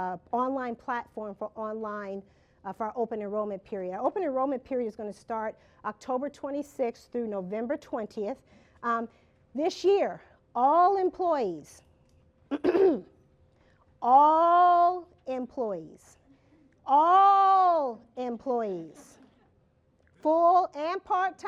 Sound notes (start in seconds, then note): 12.5 clears throat